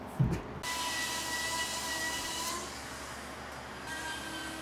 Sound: saw buzzing

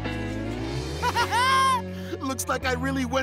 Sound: laughing

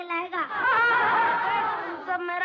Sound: laughing

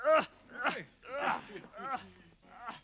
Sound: grunts; Muppets grunting; Chuck laughing

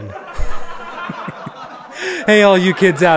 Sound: laugh track

